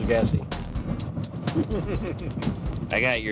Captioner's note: laughing